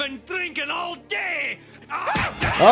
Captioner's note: Homer cries out; cries out; fists smack jaws